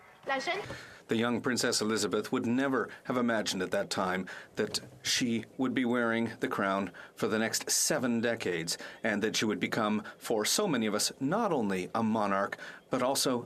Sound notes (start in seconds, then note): 4.0 speaking French